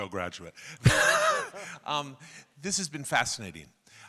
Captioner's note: laughing